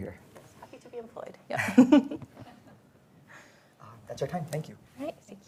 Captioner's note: laughs